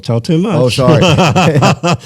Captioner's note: laughter